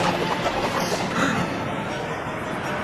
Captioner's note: gasp